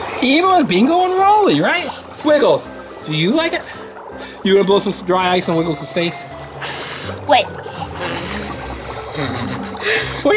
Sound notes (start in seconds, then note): 0.0 blowing; 6.6 blows; 8.3 blowing; 9.1 bubbling